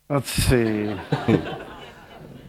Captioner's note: laughter